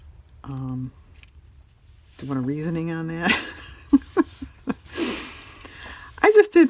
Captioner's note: laughs